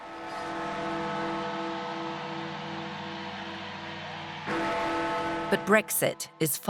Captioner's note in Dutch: menigte juicht; klokken luiden